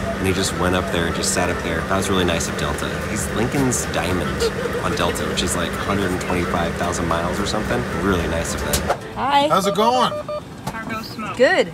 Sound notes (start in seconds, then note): 9.5 beep beep beep